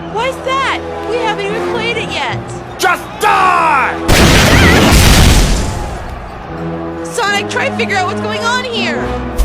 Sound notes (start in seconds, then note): 4.1 rocket launch; 4.5 Sally screams